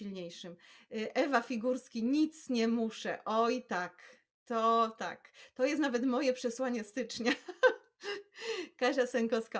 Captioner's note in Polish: śmiech